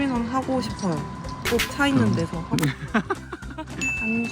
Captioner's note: laughter